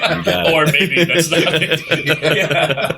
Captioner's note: laughter